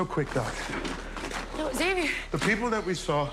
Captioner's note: breathing heavily